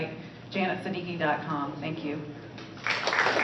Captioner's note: applause